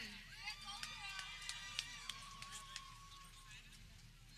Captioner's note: people cheering